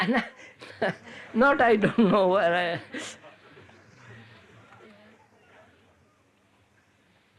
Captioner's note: laughs